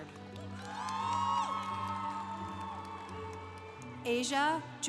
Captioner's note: congregation applauding